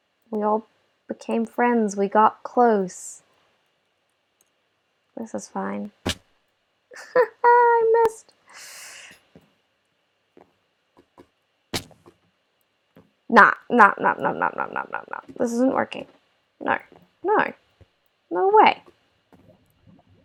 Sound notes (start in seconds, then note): 6.9 laughter